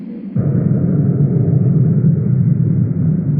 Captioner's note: wind whirring